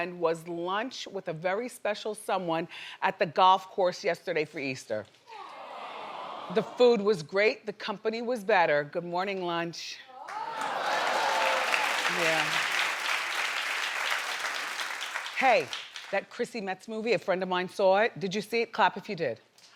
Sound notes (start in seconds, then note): 5.5 audience oohing; 10.2 audience applauding